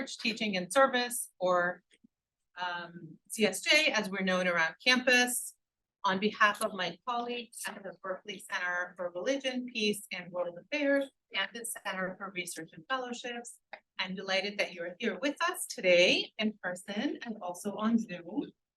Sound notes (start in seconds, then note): none